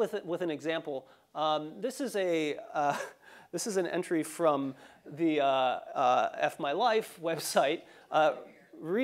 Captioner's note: laugh